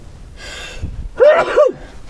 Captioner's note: sneeze